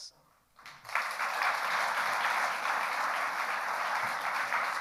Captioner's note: audience applauding